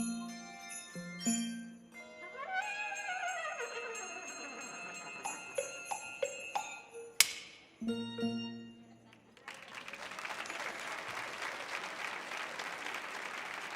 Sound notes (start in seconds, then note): 2.0 orchestra continues playing; 9.1 audience applauding